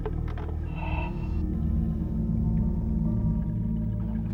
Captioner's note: heavy breathing